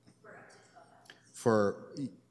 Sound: comments off mic

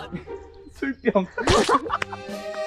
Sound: laughing

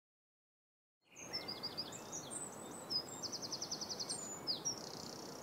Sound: birds chirping

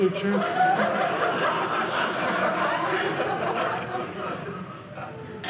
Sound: audience laughing

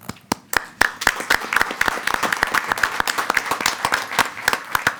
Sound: attendees applauding

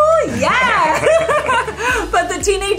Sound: both laugh

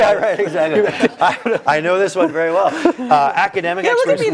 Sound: laugh

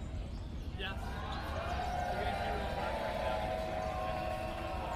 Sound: applause

